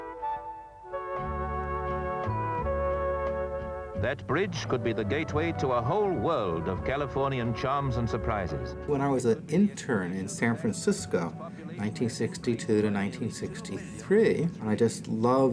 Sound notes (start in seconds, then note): 0.5 easy listening music; 4.0 voiceover